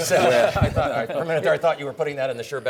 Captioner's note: panelists laughing